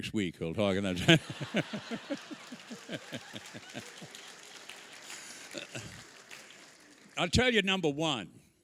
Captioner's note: applause